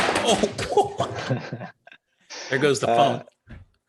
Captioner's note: phone clattering; laughing